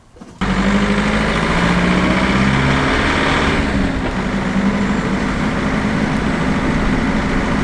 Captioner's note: car noise